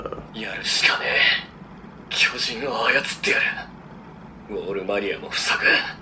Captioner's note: Attack on Titan Japanese audio